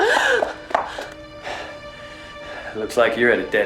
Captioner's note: gasping